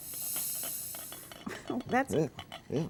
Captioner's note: steam hisses; pot rattling; chuckles